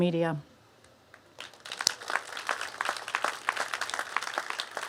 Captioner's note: applause